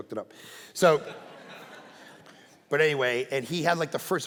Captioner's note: congregation laughing